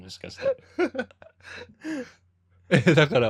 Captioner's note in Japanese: 息をのむ音; 笑い